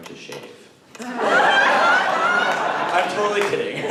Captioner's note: laughter